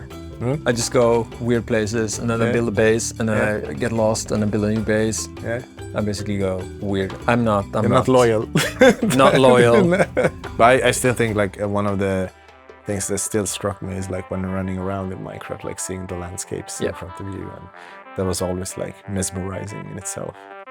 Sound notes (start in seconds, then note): 8.5 laughs